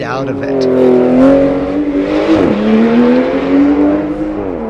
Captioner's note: engine revving